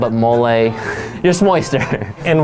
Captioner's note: chuckles